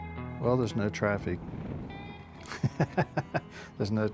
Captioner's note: laughing